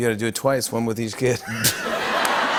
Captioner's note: laughter